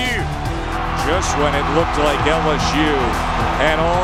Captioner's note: voiceover